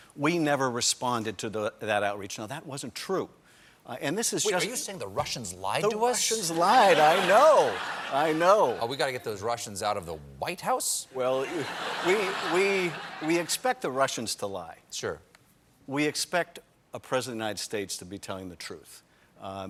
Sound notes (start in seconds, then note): 13.2 laughter